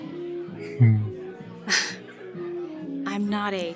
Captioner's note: whispers in the vocalist’s ear; irritated exhalation